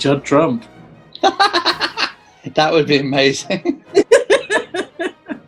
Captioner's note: cackling; giggling